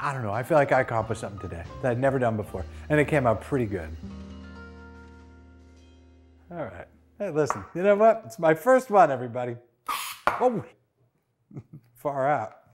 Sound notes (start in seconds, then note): 4.0 music resolves; 9.9 aerosol gas released